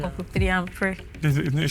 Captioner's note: laughs